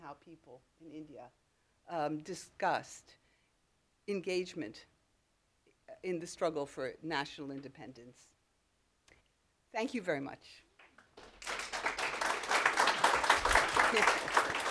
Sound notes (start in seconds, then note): 10.9 applause